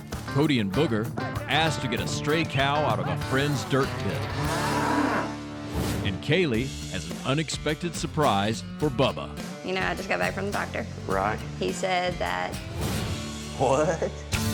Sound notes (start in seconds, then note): 3.3 mooing